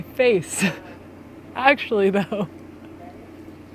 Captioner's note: chuckles